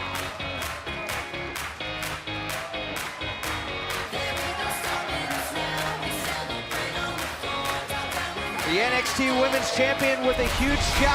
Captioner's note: cheers and applause